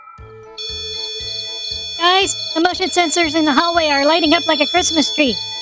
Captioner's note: yelling